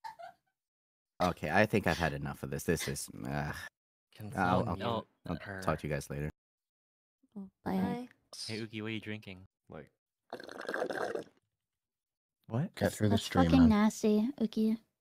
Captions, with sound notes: okay, I think I've had enough of this this is, ugh- talk to you guys later bye hey uki, what are you drinking? *sip* that's f*cking nasty, uki